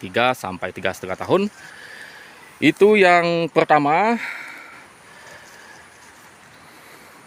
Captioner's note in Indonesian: menghela napas